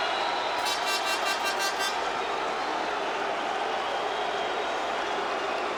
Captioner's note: air horn blows repeatedly